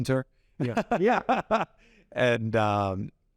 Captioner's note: laughs